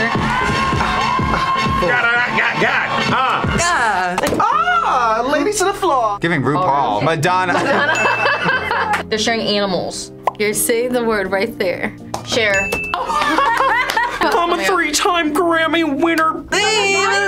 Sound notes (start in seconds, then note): 7.4 both laugh; 13.0 laughs